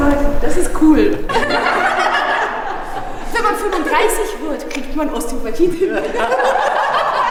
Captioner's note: laughter